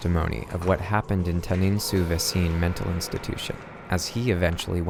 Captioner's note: speaks French